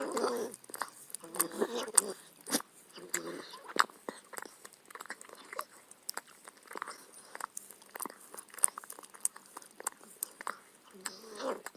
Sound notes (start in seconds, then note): 0.0 licking sounds